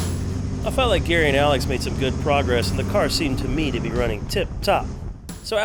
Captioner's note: car engine roaring